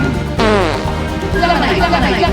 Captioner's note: fart